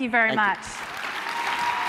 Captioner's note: applause